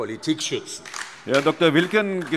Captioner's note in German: Beifall DIE LINKE